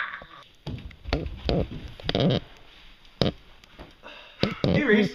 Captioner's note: Alex and Doc scream; Reese runs down the stairs and sighs